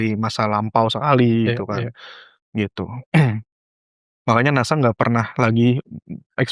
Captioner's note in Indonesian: berdehem